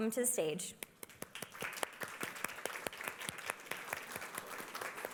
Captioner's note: applause